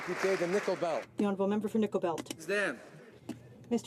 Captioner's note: some Applause